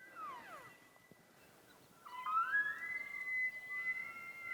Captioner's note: elk bugling